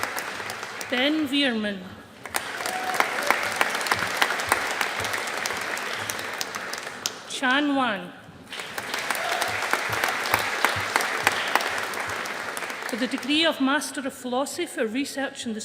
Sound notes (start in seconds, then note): 2.1 audience applauding; 8.4 audience applauding